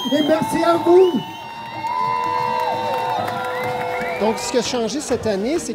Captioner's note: shouts and applause